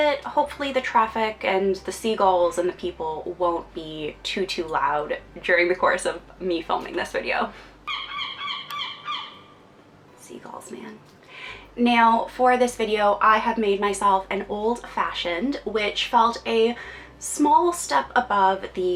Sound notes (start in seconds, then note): 7.8 seagulls squawking